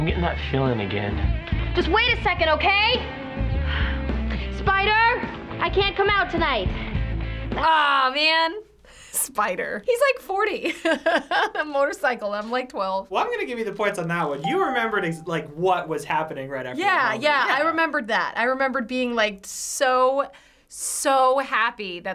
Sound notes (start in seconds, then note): 10.6 laughs